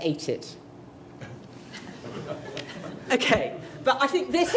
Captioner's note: light laughter